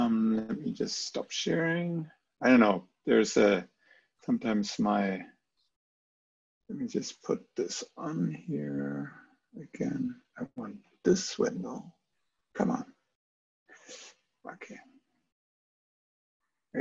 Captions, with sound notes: Let me just stop sharing. I don't know. There's a, sometimes my, let me just put this on here. (murmurs)